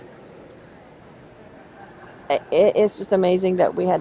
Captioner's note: chuckles